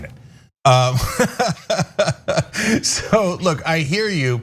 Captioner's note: laugh